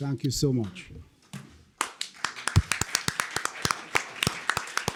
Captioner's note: applause